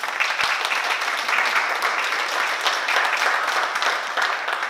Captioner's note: oklaski